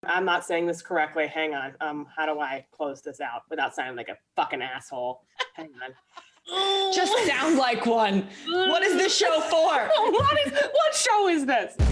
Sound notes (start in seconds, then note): 5.3 laughing; 6.4 grunting; 9.9 laughs